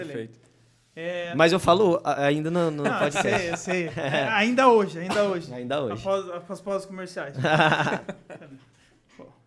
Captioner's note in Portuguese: risos